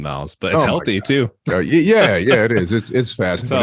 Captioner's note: laughs